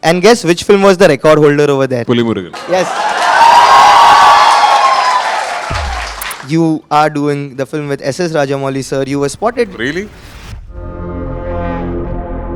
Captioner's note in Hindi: तालियां